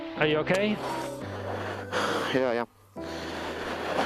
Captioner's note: deep Sigh